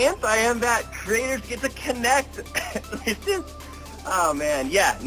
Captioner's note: coughs